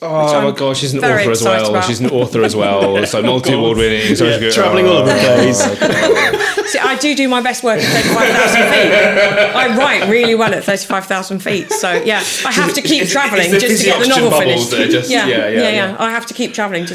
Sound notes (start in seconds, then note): 8.7 laughing